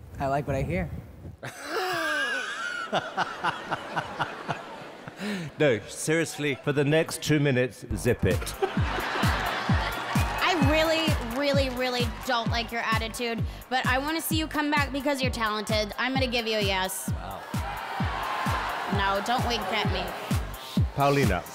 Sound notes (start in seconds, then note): 1.4 laughs; 3.3 audience laughs; 8.3 audience laughs; 8.8 pop music plays